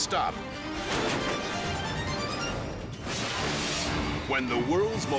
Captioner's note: air whooshes; metal clangs